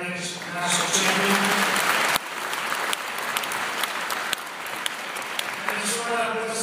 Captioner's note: applause